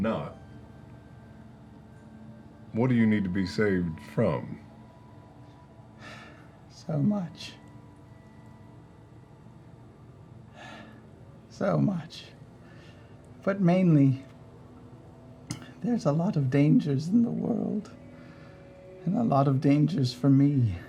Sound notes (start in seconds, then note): 7.5 sighs